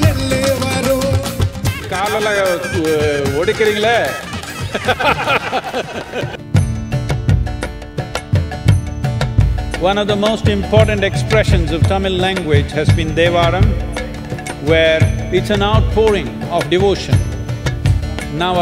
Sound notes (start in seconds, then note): 3.4 speaks in Tamil – not transcribed